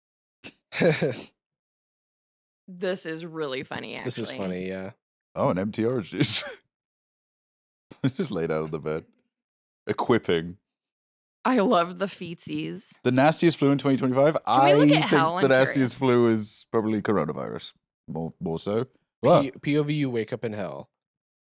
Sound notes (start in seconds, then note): 0.7 laughs